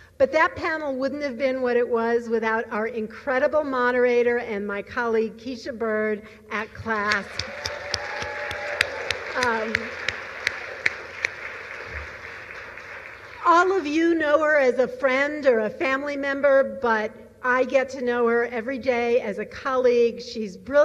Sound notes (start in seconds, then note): 7.0 applause